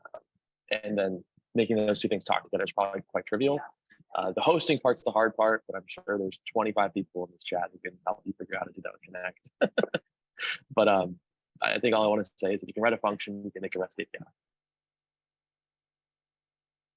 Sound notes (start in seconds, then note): 9.5 laughs